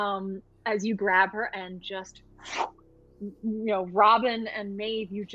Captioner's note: imitates whooshing